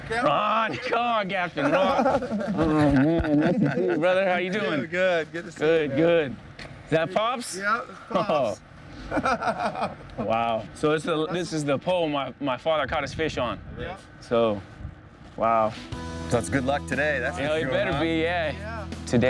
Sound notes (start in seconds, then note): 9.0 laughing; 15.7 soft music